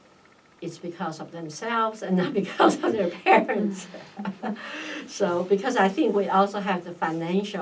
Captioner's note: laughs